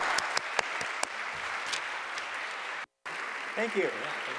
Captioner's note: applause